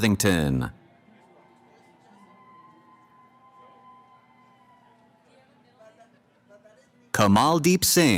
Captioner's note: cheering